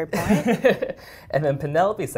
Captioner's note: laugh